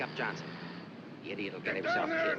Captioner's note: shouting